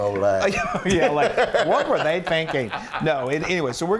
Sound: laugh

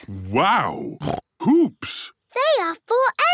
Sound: snorts

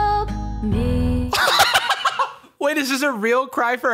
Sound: laughing hysterically

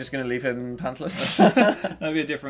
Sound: laughs

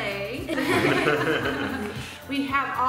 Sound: laughing

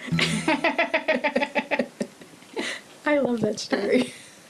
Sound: both laughing

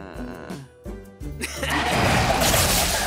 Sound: laughs

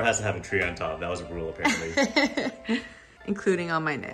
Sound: girlfriend laughs

